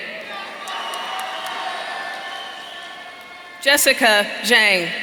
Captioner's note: audience cheering